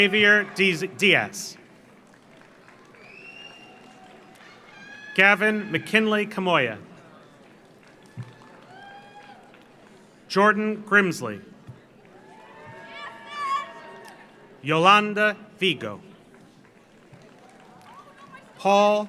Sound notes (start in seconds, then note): 1.5 audience applauds; 2.8 audience cheers; 7.2 audience applauds; 8.0 audience cheers; 12.2 audience cheers; 12.4 audience applauds; 16.6 audience applauds